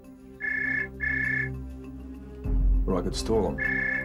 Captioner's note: phone rings